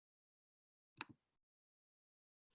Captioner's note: click